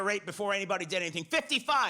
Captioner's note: none